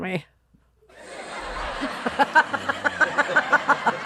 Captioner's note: laughter